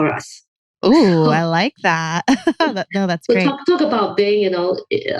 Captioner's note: laughs